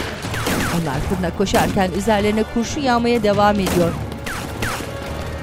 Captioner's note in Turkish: Silah sesleri